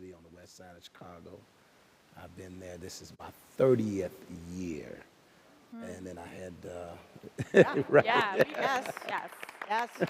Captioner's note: clapping